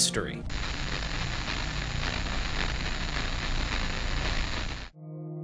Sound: audio static

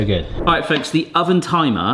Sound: screen wipe whooshes

